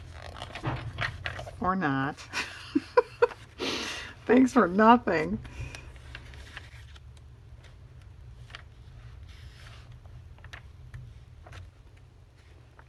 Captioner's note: laughs